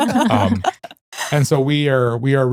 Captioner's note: laughing